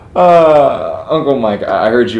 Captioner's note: Jonathan laughing